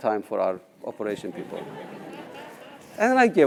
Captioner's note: laugh